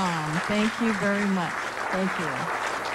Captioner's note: applause